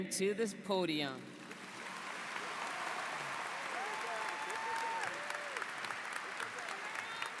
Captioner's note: applause